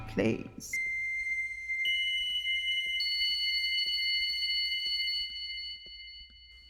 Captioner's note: haunting whistle sound plays